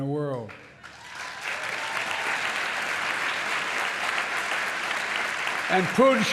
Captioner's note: applause